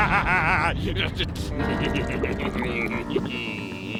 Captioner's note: chuckling; laughing